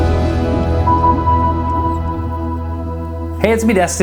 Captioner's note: submarine sonar ping